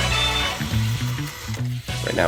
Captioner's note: lively music; vacuum whirring